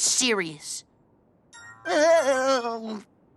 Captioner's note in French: sonnerie de téléphone